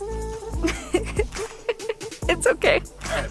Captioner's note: laughing